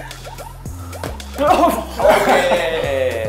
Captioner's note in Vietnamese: Cười; Argh